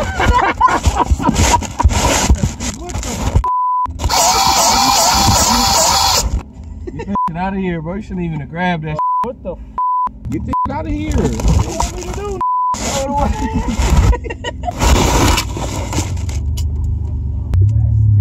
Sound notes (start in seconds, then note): 0.0 laughter; 3.4 beep; 4.0 motor spinning; 9.0 beep; 12.4 beep